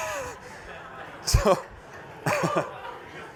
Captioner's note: laughter